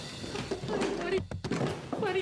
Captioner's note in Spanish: ruido al caer